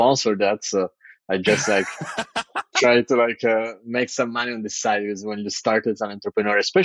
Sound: <Laugh>

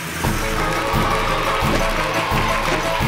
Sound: audience cheers; lively music

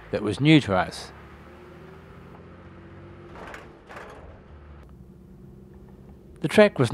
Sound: vehicle sounds

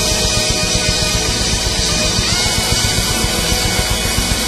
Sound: audience applauds

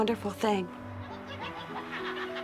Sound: laughter

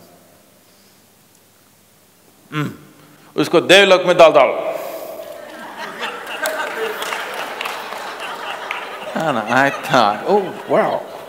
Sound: laughter

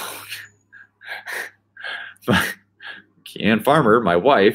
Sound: laughing

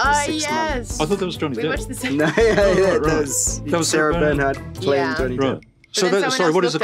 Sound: laughing

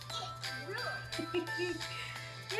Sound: laughing

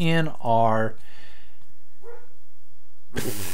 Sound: another bark

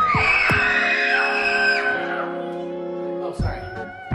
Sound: children screaming

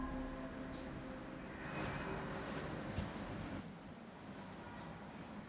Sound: none

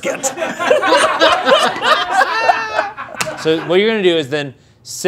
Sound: group laughing

